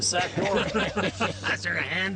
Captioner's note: laughing